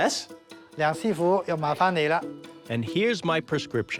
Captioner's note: speaking Chinese dialect